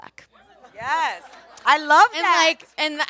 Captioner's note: audience laughs